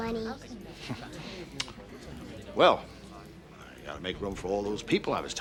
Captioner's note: clicks tongue